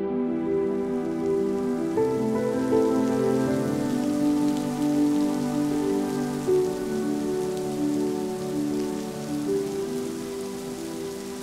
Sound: raining

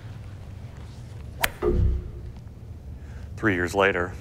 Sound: swinging club

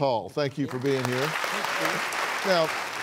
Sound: applauding

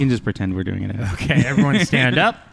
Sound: laughs; general laughter

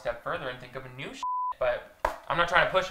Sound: beeps

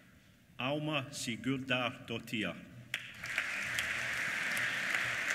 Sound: applause

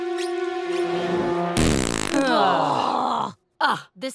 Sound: farting, groaning

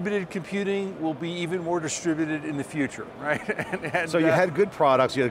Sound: laughs

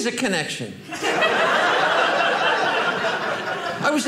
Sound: audience laughing

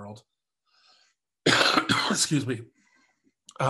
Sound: coughs

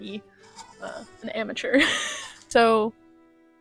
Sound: laughter

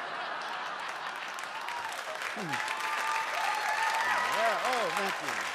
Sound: audience cheers and applauds

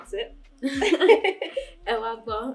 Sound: laughter

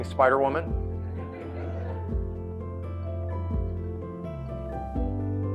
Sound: audience laughing

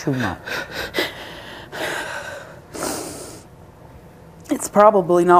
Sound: sniffles

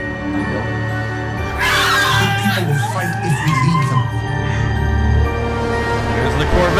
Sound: screams

